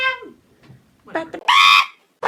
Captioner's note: humming the beginning of " ", but more derpy; humming the beginning of , but derpy